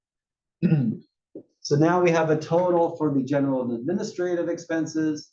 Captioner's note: cough